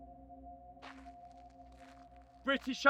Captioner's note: shoes shuffling